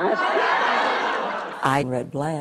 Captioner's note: laughs